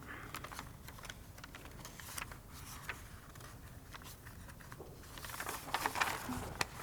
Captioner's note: papers shuffling